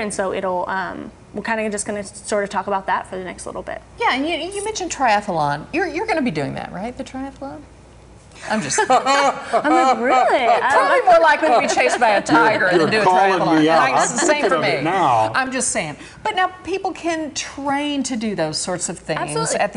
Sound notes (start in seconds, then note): 13.8 laughing